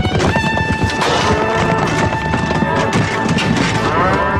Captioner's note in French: Meuglements, coups de feu